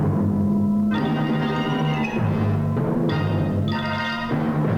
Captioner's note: low humming tone